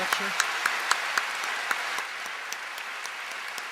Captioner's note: applause